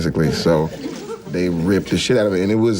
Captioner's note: participants chuckling